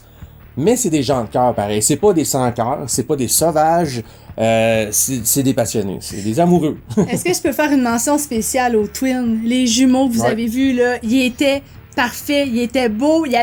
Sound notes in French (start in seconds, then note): 6.1 rires